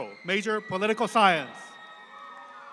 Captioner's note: student shouts out